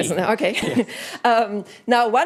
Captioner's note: laughs